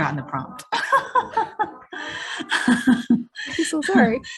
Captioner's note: presenters laughing